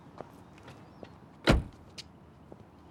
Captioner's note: none